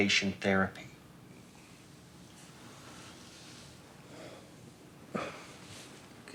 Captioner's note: inhales and exhales